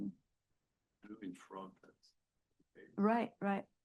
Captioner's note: student faintly speaking